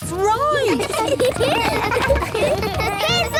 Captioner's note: laughter